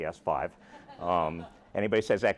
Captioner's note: laughter